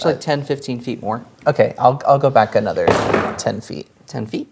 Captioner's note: object clattering